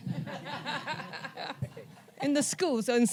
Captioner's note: audience laughs